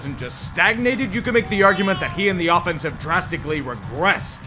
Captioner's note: nyooooom!